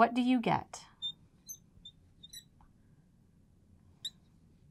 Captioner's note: marker squeaking